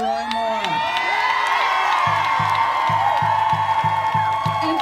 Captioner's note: crowd cheering and applauding